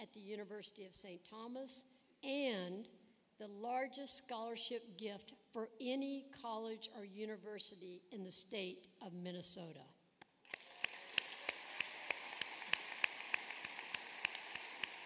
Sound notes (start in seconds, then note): 10.4 applause